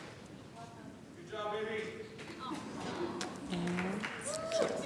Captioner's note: chatter